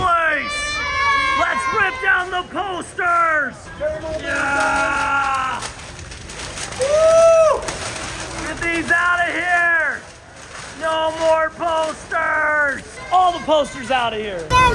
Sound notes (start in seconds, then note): 4.0 people shouting; 5.4 posters rustling